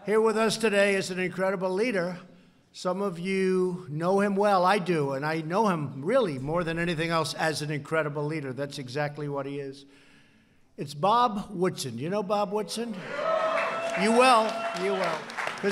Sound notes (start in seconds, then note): 13.1 applause